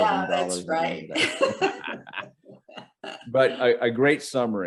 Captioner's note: both laughing